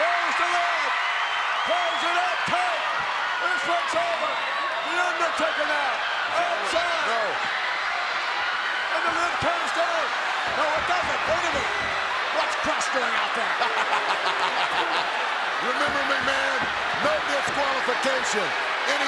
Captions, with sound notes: (audience cheers) Close the lid. Close the lid tight. This one's over. The Undertaker now outside. No, no. And the lid comes down. No, it doesn't. Wait a minute. What's Crush doing out there? (laughs) Remember, McMahon, no disqualification.